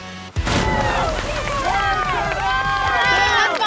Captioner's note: upbeat music; water splashes; teammates cheer